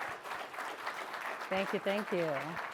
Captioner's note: applause